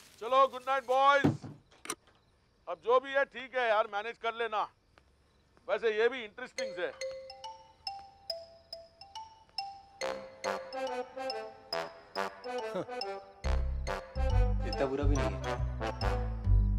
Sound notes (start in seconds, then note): 1.1 door closes